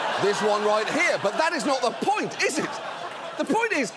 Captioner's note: audience laughing